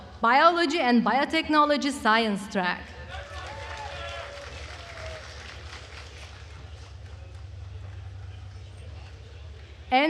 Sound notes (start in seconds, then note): 3.1 attendees applauding